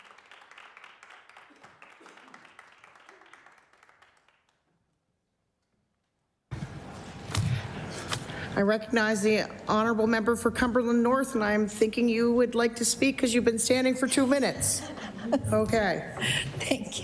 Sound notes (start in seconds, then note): 1.8 applause